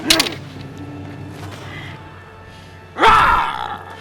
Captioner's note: Holodeck doors closing